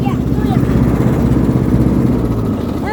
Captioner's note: lawnmower turns off